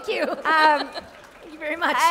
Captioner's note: laughter